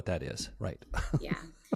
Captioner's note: laugh